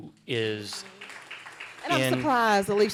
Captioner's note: applause